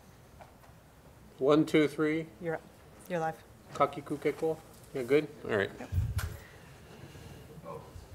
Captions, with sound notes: - One, two, three. - Yeah, you're live. - (speaks foreign language) We're good? All right.